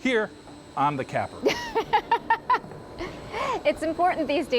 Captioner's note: laughing